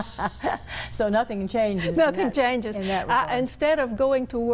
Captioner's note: laughter